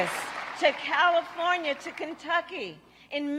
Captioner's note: applause